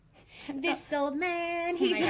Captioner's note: chortles